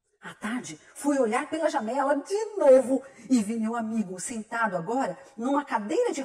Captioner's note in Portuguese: none